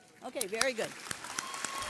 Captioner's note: audience clapping